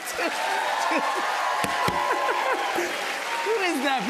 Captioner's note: cheers and applause